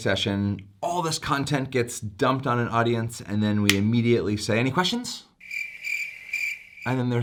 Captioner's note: cricket Sound